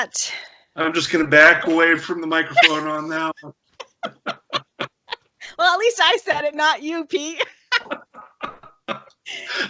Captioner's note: laughter